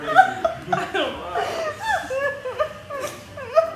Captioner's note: laughing